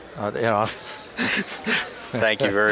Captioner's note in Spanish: risas